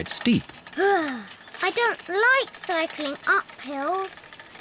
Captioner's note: groans